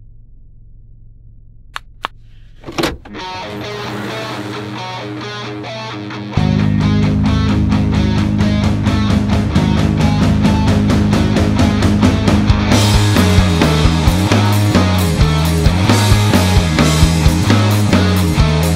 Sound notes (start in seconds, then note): 1.5 click; 3.1 rock music